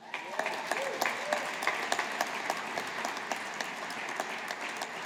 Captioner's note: audience applauding